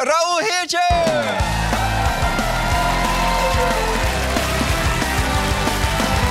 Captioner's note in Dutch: luid applaus